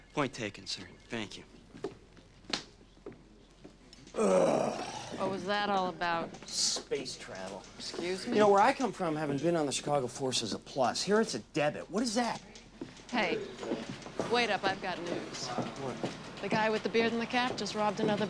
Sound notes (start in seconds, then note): 4.1 Tom groans